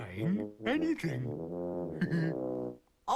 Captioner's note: chuckling